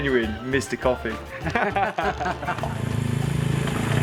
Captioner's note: laughter